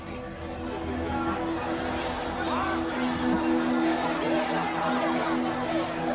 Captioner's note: demonstrators yelling